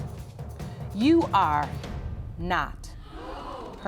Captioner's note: audience gasps